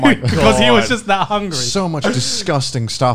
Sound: laughs

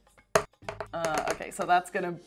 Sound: dice thudding

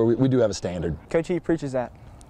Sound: sounds of football practice

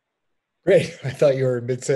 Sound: laughs

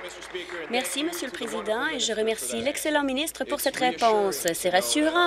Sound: applause

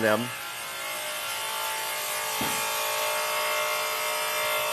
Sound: power tools whirring

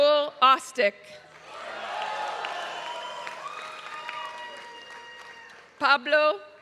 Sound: applause

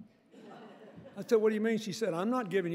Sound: audience laughing

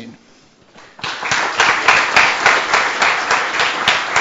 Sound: applause

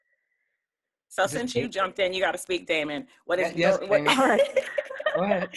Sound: laughs

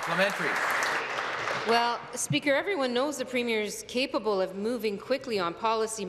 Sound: applause

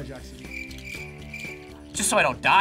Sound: crickets chirping

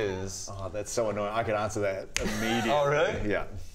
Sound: snap

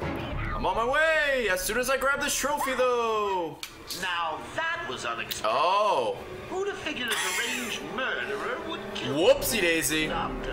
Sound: laughs

